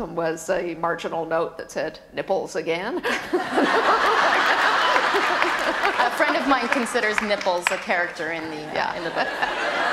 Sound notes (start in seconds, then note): 3.4 audience laughter and applause; 8.9 laughter